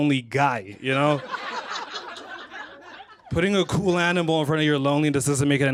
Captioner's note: laughter